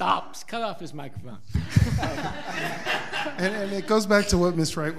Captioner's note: all laughing